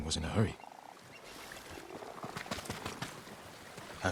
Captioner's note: water splashing